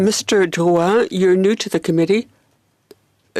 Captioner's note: speaking French